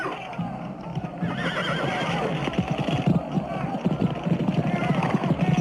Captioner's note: men shouting